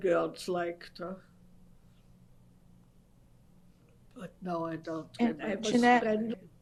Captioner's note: pauses for 3 seconds